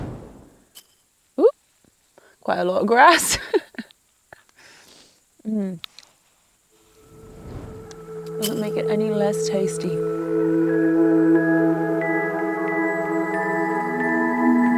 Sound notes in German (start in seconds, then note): 3.2 lacht; 11.0 sanfte Musik